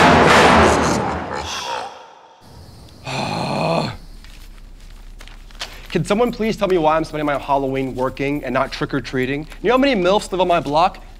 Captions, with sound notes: (maniacal laughing) - Shh. - Ugh! Can someone please tell me why I'm spending my Halloween working and not trick or treating? You know how many MILFs live on my block?